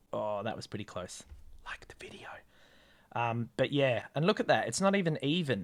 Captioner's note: whispers